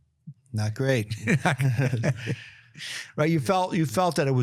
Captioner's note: chuckles